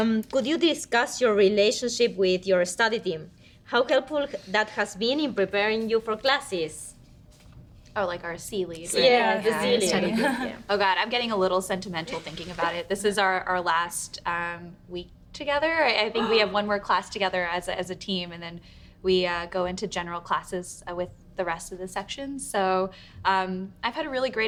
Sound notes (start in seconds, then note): 9.0 women chattering